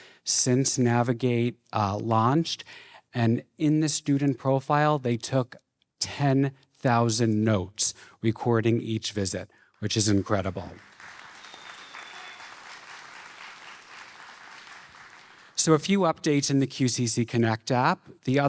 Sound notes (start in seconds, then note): 10.6 audience applauding